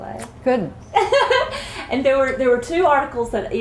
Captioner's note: laughter